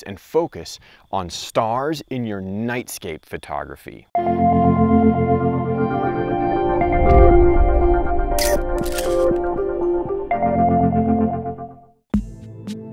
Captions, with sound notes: and focus on stars in your nightscape photography. (gentle music) (camera clicking)